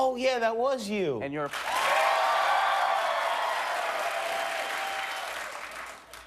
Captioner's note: crowd cheers and claps